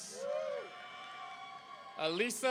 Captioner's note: audience cheering